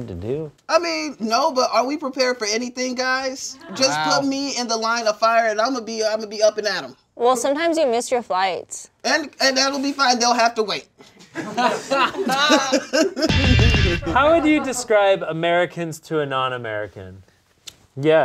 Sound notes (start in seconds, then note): 11.1 all laughing; 13.3 electric guitar music